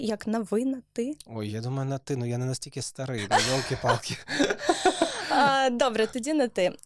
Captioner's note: laughing